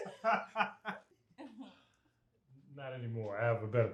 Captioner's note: family laughing